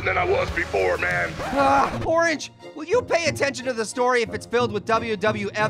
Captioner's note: groans